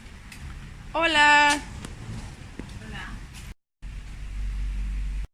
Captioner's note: speaking Spanish